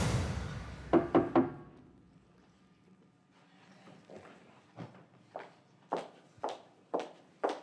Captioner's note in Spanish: toques en la puerta